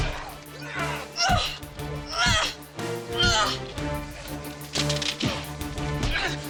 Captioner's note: punches thudding; people groaning; punches thudding; dramatic music